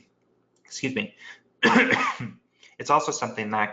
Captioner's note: coughs